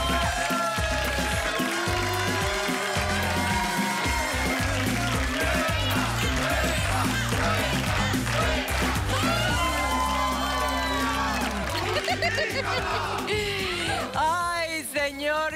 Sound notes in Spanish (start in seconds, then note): 0.2 Aplausos; 9.5 Exclamaciones